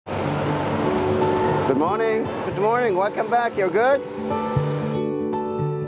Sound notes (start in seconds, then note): 0.0 bus engine roars